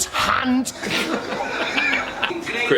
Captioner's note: laughs